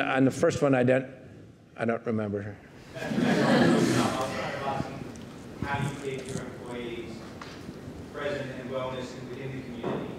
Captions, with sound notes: On the first one... I don't remember. (audience laughing) (speaking faintly)